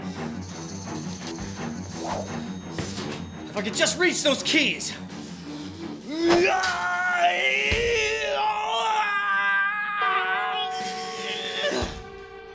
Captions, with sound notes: If I could just reach those keys! (grunting)